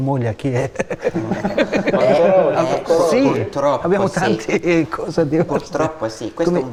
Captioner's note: laughter